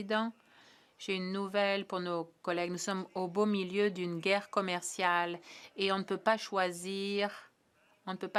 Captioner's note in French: voix de l'interprète